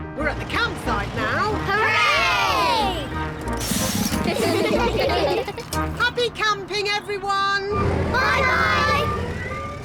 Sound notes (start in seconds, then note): 4.1 all giggling